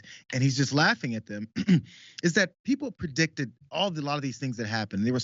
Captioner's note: cough